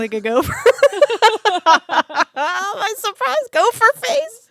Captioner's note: both laughing